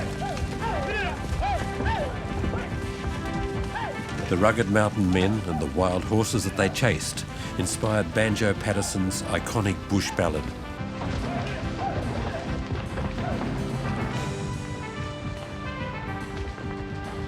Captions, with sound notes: The rugged mountain and men, and the wild horses that they chased, inspired Banjo Paterson's iconic "Bush Ballad." (men shout) (hooves thunder)